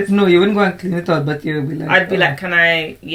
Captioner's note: laughs